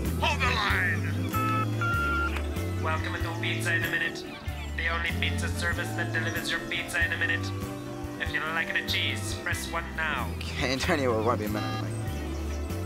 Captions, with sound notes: - Hold the line. - [Robot Voice] Welcome to Pizza in a Minute, the only pizza service that delivers your pizza in a minute. If you would like the cheese, press one now. - Okay Antonia, won't be a minute.